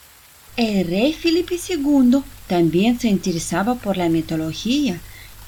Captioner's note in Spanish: Sonido del Agua de la Fuente